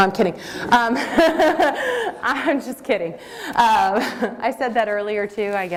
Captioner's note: laughter